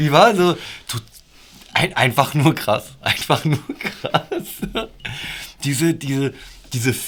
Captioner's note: laughter